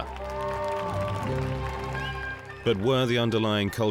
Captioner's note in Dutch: publiek juicht